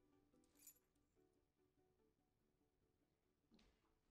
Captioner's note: key jingles